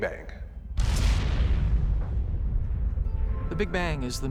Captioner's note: booming